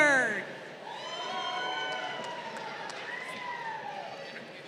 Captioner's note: crowd cheering